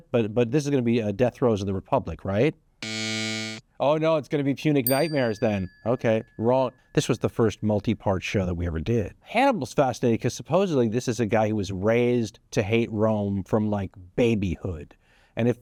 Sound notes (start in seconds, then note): 2.8 buzzer blares; 4.8 bell dings